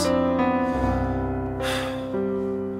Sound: Dan inhales; Dan exhales

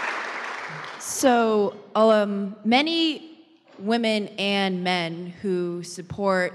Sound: applause; voiceover

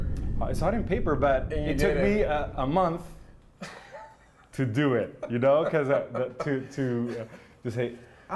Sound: laughs

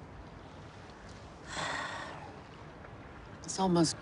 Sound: sighs

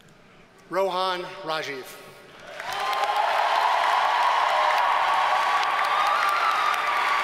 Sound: audience cheers and applauds

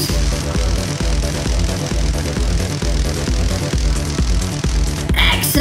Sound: crackling electricity

